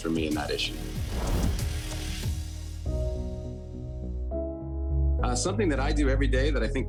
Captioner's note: upbeat instrumental music; image whooshing